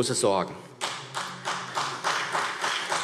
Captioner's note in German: Beifall